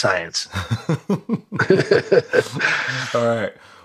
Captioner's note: laughter